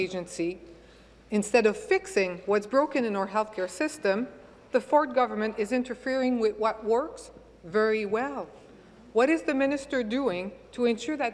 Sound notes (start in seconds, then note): none